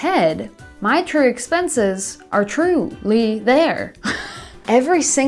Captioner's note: chuckles